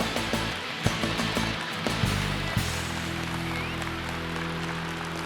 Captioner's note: audience applauding